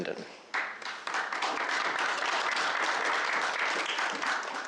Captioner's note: applause